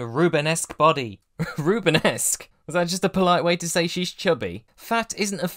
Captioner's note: chuckling